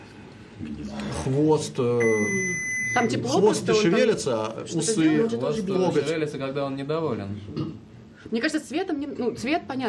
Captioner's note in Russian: откашливается